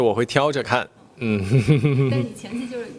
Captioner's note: smug laugh